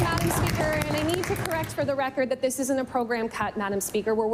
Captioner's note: applause